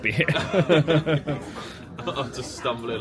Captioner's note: both laugh